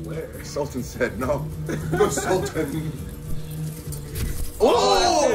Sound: laugh

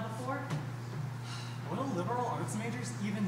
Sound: sigh

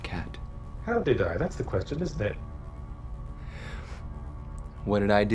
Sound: voiceover

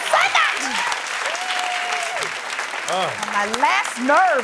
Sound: cheering and applause

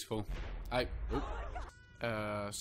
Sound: explosion

